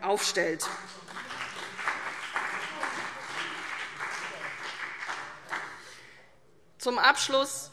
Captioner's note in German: Vereinzelter Beifall CDU und BÜNDNIS 90/DIE GRÜNEN - Zuruf AfD